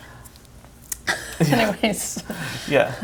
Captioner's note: both laugh